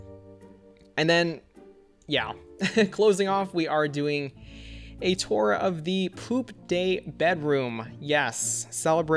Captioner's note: laughs